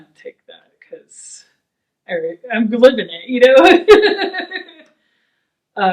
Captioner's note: laughs